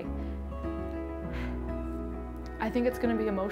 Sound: exhaling

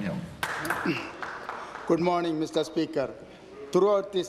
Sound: applause

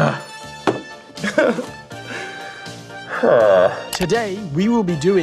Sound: laughs

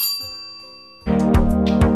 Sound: bell ringing; upbeat music

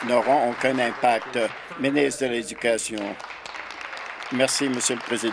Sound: applause

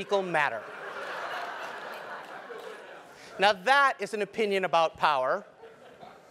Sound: laugh

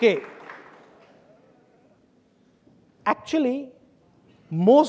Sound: audience applauding

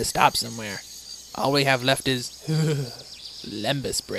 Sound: shudders

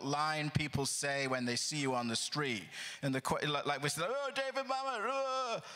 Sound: sound of excitement

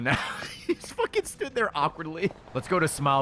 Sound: laughs

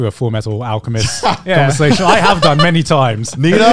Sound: laughing

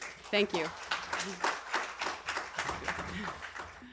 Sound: applause

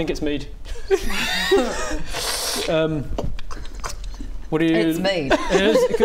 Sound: slurp

